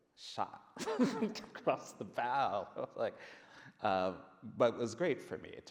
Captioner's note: laughs